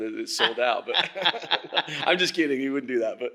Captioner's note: laughing